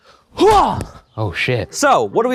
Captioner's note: grunts